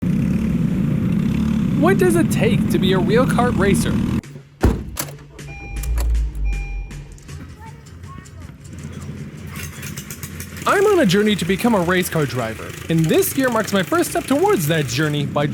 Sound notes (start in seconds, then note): 4.6 slams trunk; 9.6 engine starts up